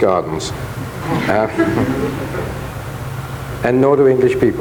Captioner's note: audience laughs faintly